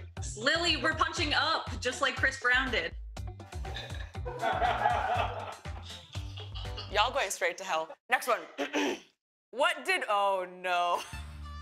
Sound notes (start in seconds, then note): 4.2 laughter; 8.6 clears throat; 10.8 laughs